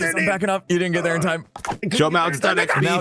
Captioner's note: fusses